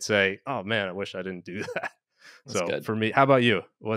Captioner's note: chuckles